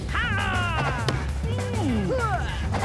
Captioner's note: punching sounds